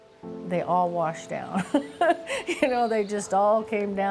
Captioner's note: laughs